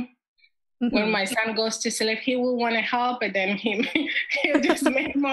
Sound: laughs

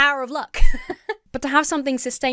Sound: laughs

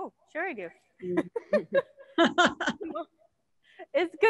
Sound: panelists laughing

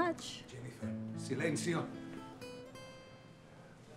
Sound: Spanish spoken audio

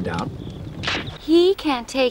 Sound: twig snap

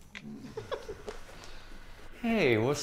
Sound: chuckling

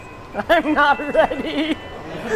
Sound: laughing

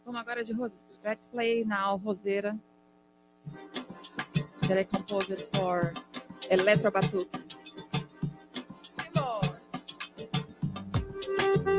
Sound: speaking in Portuguese

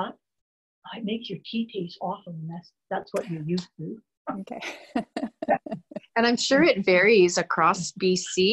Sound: laughs

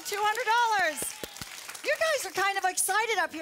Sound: audience applause

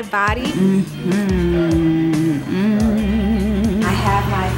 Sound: humming

